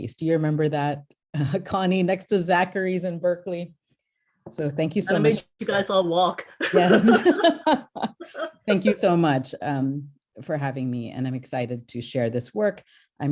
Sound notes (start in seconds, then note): 6.6 laughter